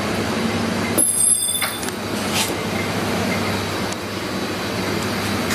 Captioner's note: loud clanking